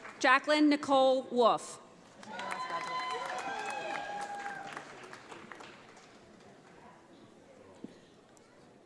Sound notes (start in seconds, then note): 0.0 audience applauding; 2.1 audience applauding